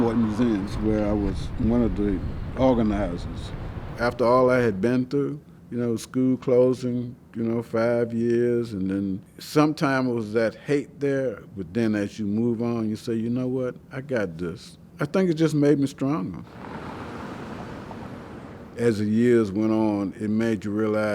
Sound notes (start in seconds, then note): 16.5 car engine revving